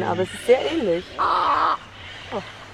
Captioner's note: bird crows